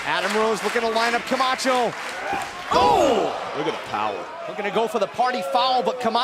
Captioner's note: clapping